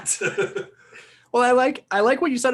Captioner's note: laughing